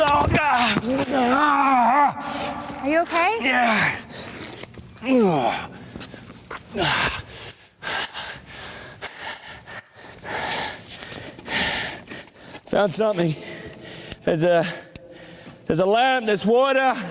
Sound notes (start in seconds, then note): 1.2 screams; 5.0 groans and sighs